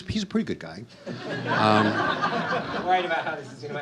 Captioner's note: audience laughs